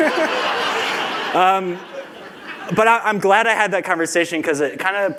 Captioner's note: laughter